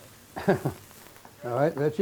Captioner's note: laughs